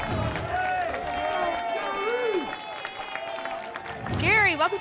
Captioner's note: applause and cheering